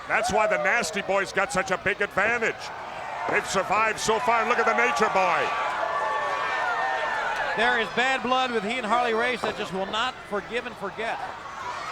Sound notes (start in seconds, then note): 5.4 crowd yelling; 11.7 crowd yelling